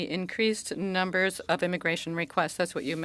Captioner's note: speaking French